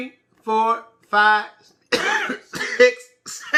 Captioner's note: coughs